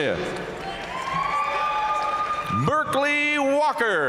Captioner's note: audience cheering and applauding